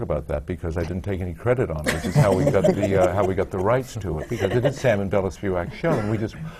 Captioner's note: laughter